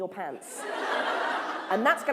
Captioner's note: laughter